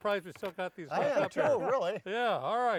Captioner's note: laughs